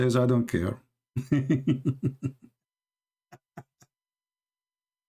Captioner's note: Ketawa